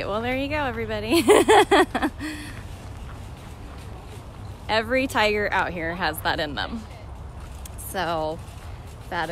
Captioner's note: laughter